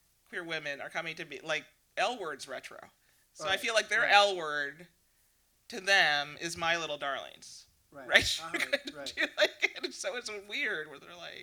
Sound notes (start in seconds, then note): 8.1 laughs